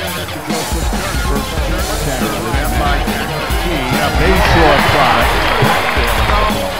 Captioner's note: commentators talking; crowd cheering